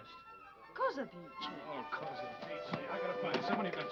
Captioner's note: speaking foreign language